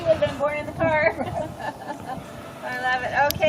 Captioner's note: women laugh